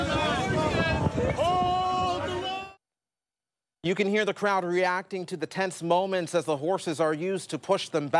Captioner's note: sounds of the protestors